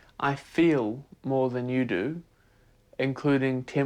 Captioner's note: none